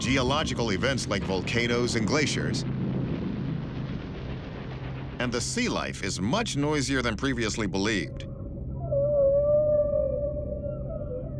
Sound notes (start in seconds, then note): 7.8 whale song